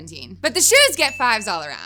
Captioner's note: bell ringing